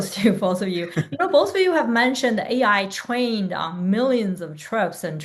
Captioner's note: chuckles